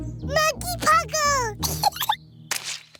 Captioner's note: giggles